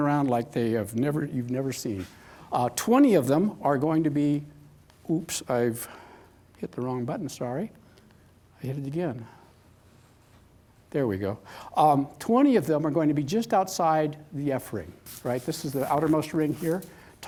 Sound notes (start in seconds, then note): none